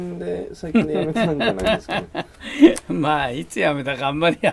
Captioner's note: chuckle